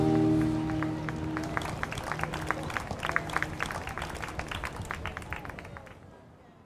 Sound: applauds

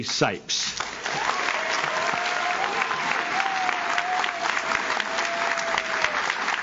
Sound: audience claps; audience cheers

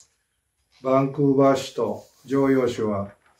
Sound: speaking japanese

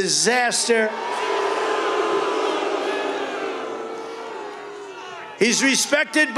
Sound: crowd jeers

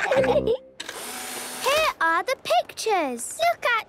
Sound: whirring

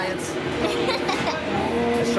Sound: laughs

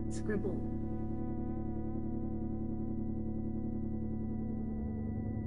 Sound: electronic humming

